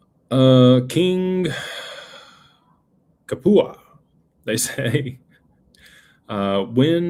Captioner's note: sighs and gasps